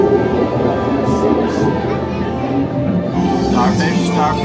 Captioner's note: water bubbling